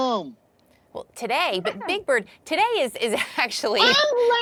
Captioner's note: chuckling